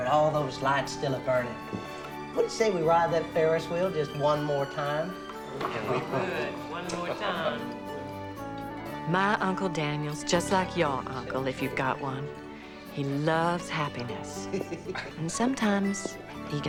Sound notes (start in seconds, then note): 9.0 all talking convivially